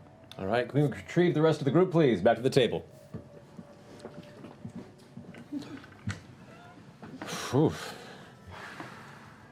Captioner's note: sharp exhale